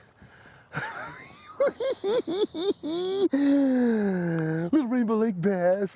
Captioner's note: cackling